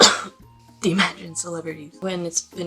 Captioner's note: cough